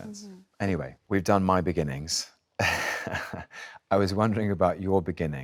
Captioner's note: chuckles